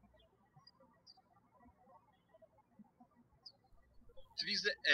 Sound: birds chirping

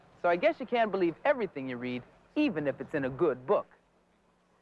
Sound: none

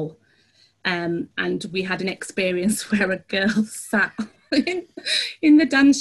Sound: giggles

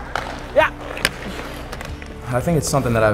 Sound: man exclaims

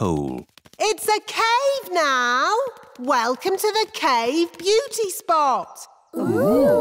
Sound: echoing

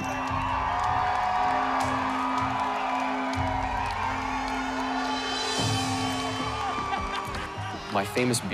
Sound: applause

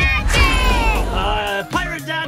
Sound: air whooshing

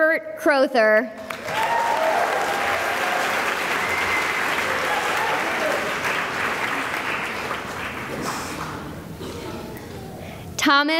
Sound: cheering and applause

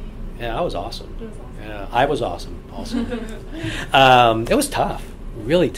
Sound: laugh

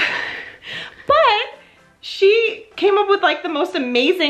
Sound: chuckles

